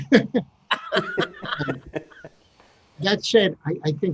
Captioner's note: laughing; laughs